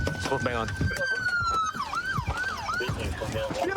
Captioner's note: sirens wailing